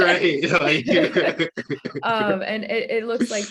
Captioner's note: laughing